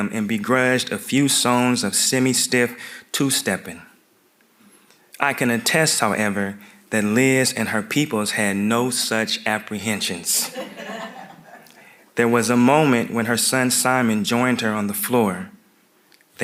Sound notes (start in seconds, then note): 10.4 audience laughing